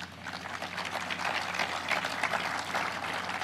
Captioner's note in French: applause